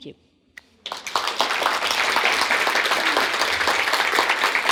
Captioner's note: audience applauding